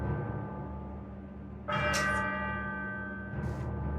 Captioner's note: bell Ringing